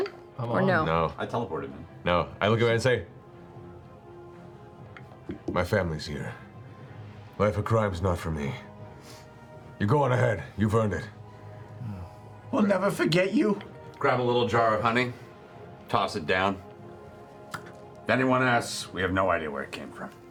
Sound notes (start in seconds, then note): none